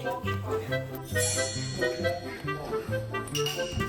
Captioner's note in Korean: 반짝이는 효과음